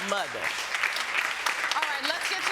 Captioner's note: audience applauding